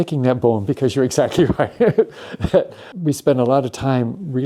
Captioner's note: chuckles